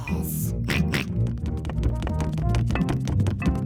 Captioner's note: snorts; george oinks